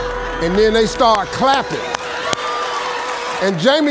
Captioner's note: audience clapping